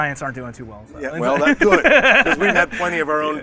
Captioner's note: laughs